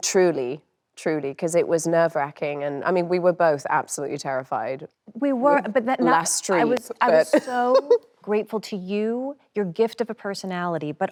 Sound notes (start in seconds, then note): 7.3 laughs